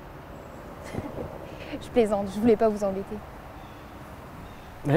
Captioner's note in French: Rires